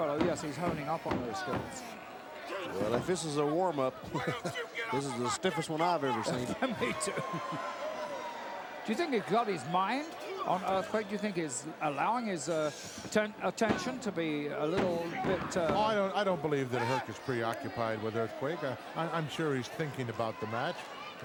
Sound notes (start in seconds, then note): 4.0 chuckles; 6.6 chuckles